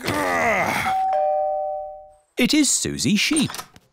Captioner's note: groans; doorbell rings